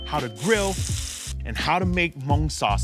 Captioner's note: grill sizzles; knife slashes